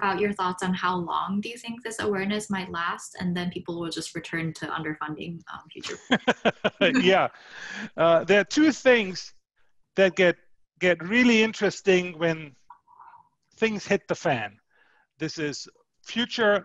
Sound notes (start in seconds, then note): 7.9 laughs